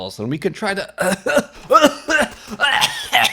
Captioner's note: coughing